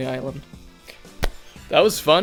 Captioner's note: claps hands